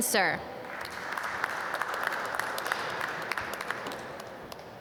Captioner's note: applause